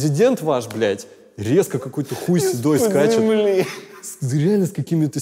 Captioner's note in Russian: сквозь смех